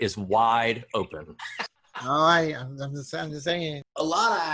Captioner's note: laughter